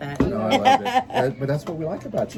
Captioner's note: laughing